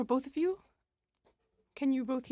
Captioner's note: speaking French